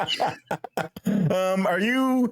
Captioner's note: laughing